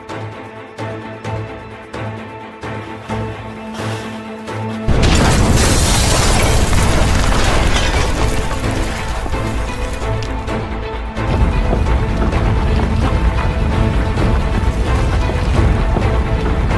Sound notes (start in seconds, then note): 4.8 bomb exploding